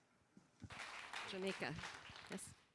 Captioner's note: applause